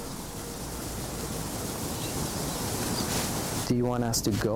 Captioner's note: birds singing